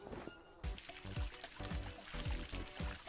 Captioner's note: animals calling; water splashing